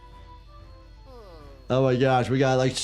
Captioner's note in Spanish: personaje verde gimiendo